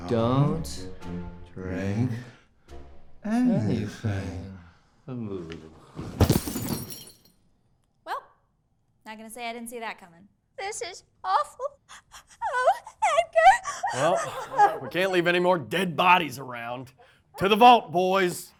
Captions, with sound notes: "Don't drink anything." *thuds and glass shatters* Welp, not gonna say I didn't see that coming. This is awful! Oh, Edgar! *cries* Well, we can't leave any more dead bodies around. To the vault, boys!